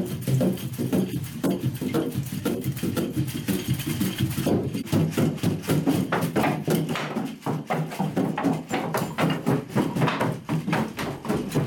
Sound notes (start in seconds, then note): 6.6 wood clattering